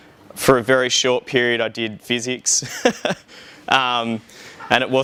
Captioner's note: laughing